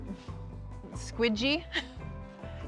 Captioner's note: laughs